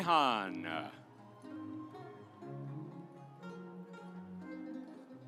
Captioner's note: audience applauds; stately music